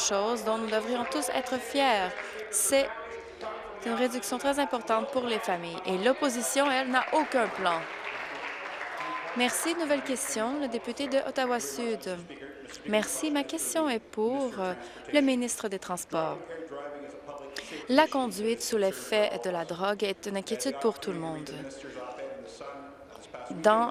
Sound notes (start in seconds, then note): 10.7 applause